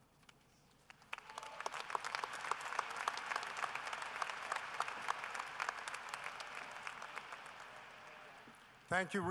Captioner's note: applause